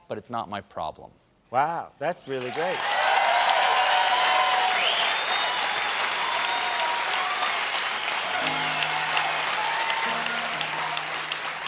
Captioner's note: cheers and applause